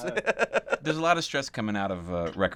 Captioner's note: laughs